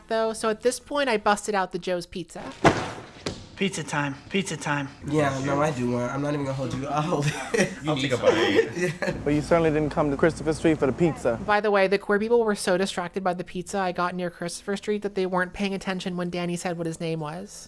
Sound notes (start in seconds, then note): 2.6 pizza slam; 6.7 chuckles; 9.1 laughs